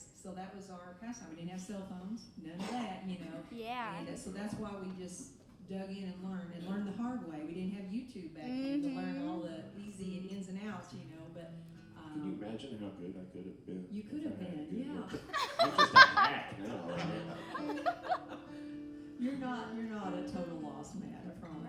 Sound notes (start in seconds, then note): 15.2 all laughing